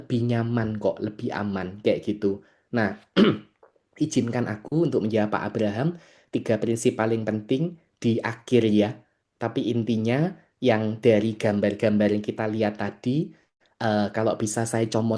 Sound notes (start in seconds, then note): 3.1 berdehem